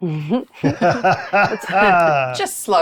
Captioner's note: laughing